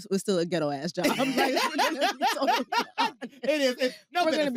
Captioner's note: both laughing